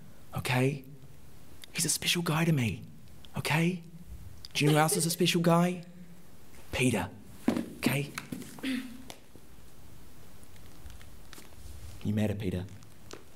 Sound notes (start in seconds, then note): 4.5 laughing; 8.4 footsteps, coughs